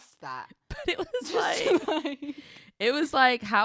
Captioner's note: chuckles